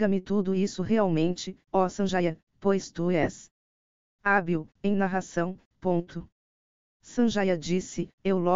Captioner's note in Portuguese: em narração